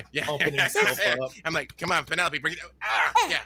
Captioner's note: grunts